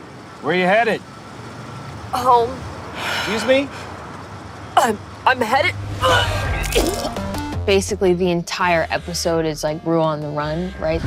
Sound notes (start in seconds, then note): 6.2 hurls